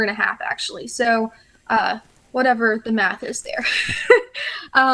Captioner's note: chuckles